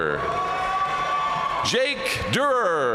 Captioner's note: audience cheering and applauding